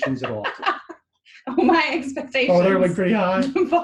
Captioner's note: laughs